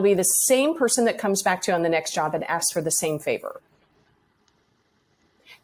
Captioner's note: none